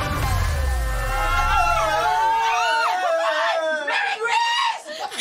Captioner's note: cheering; laughing